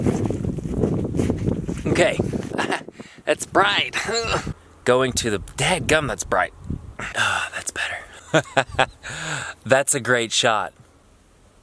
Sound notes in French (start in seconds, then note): 2.5 rires